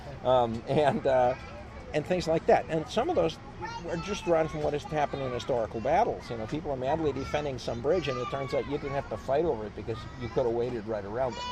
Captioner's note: child talking